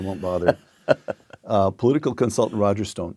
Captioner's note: laugh